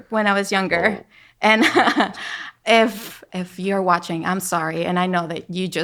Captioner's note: laughing